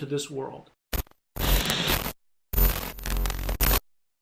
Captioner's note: electricity zapping